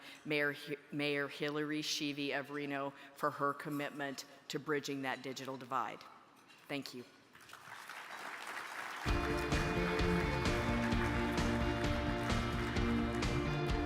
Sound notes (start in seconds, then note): 7.4 crowd applauding; 9.0 uplifting music